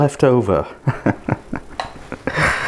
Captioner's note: laughs